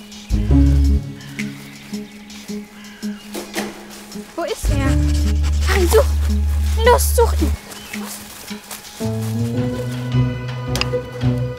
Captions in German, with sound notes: (Krähenrufe) Wo ist er? Pari, such, los, such ihn! (Spannungsvolle Musik)